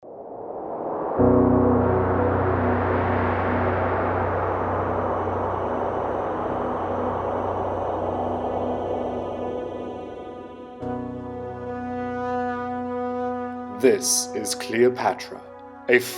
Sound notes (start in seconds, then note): 0.3 soft majestic music; 0.3 wind howling